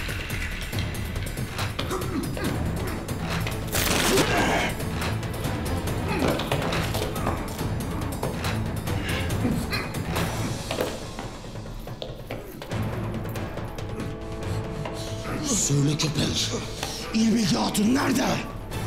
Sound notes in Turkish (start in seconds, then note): 0.0 Müzik - Hareketli; 3.6 İnleme sesi; 6.0 Düşme sesi; 9.2 Müzik - Hareketli